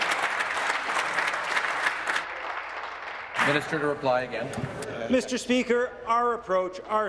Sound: applause

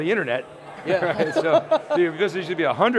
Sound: laughing

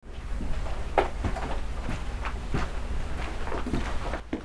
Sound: footsteps

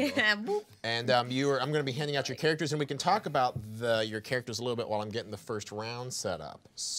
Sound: none

